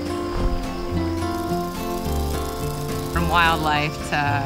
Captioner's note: dragonfly buzzing